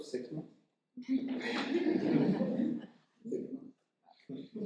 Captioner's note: audience chuckling